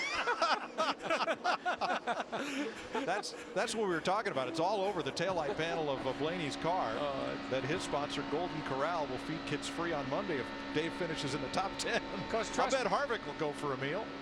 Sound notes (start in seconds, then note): 5.3 laughter